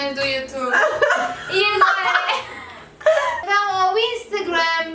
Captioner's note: laughs